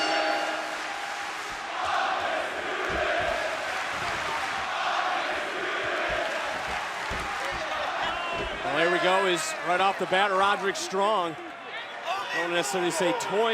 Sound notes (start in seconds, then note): 0.0 bell ringing; 2.4 crowd cheering